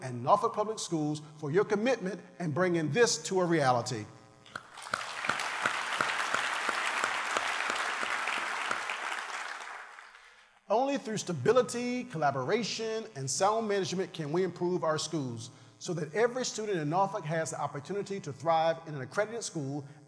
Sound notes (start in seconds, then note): 7.9 applause